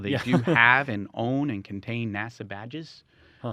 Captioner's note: laughs